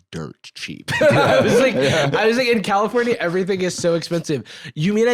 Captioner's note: laughs